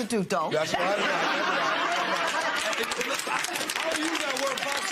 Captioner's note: laughter